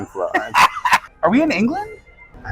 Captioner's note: laughing